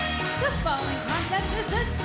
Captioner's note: bell ringing